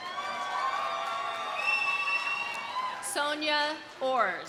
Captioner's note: audience applauding; audience cheering